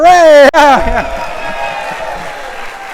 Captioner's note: audience cheers and applauds